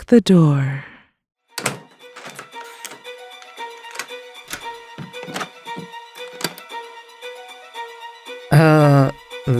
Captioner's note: door shutting, multiple locks being set